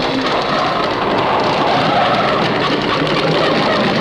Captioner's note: cranking